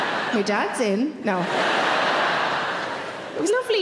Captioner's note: audience laughing